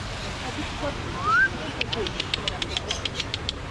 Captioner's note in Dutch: fluiten